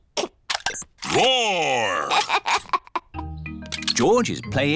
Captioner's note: giggles